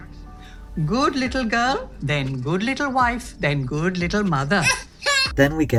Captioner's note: Poppy laughs